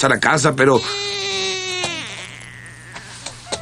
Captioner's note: baby crying